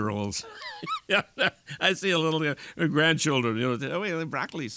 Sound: laughing

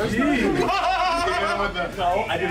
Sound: laugh

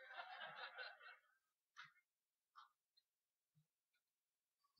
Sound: laughter

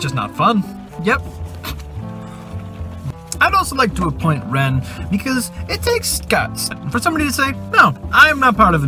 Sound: sniggers

